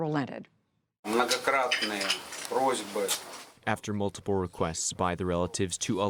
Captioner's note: through translator